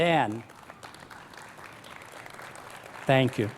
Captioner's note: applause